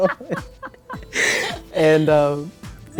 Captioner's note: laughing